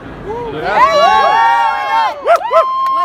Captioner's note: enthused cheering